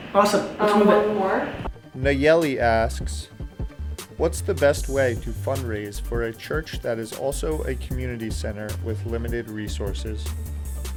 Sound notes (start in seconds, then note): 2.3 voiceover